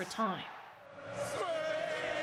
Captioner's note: cheers and Applause